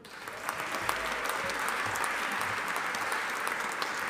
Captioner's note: audience applauding